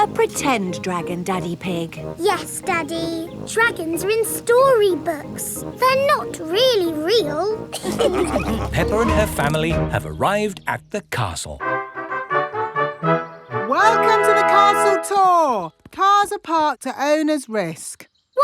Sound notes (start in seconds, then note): 7.7 all laughing; 11.6 fanfare playing